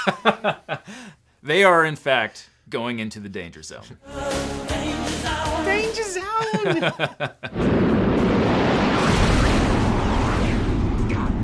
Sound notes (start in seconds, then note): 0.0 laughing; 6.2 laughing; 7.7 jet engine whirring